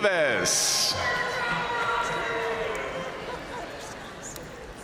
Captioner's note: audience cheering and applauding